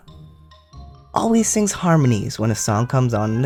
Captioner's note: none